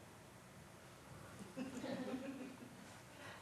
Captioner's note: laughter